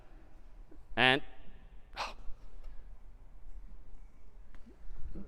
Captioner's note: sigh